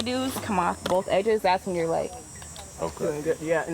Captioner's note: mouth clicks